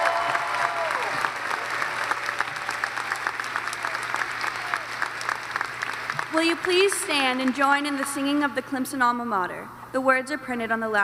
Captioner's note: cheers and applause